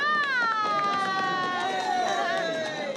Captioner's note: applause